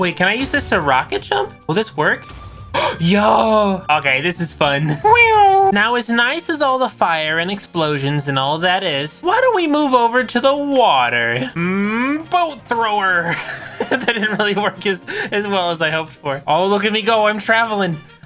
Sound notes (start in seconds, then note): 2.7 gasp; 3.7 weird cat bouncing noise; 13.2 laughing